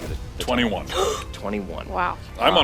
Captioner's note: gasps